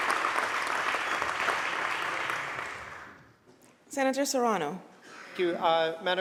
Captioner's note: applause